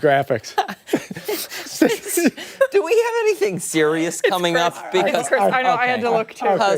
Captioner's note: laughter